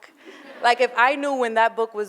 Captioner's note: laughter